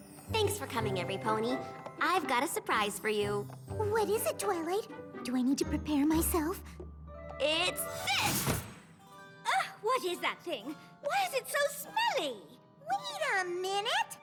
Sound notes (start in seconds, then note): 3.6 gasp